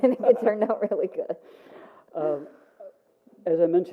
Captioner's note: laughing; laughs